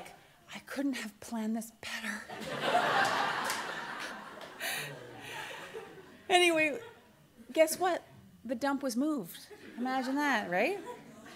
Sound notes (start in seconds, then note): 2.4 audience laughter